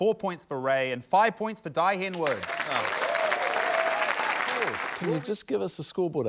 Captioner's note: cheering, applause